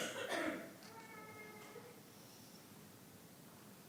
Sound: coughing

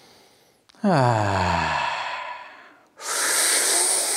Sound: sighs; sucking in through a straw

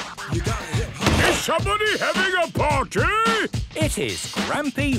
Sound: shouts

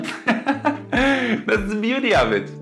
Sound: laughs

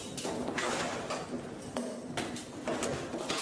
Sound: banging

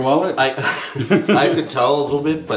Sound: laughing

